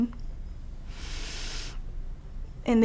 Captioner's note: inhales